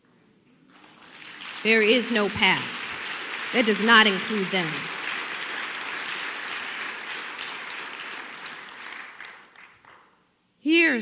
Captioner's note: applause